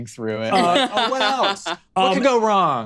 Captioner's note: laughs